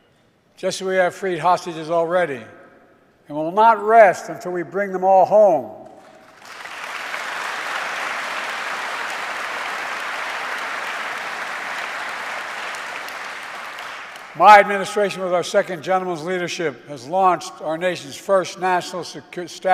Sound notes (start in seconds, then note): 7.6 applause